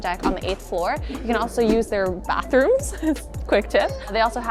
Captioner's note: chuckles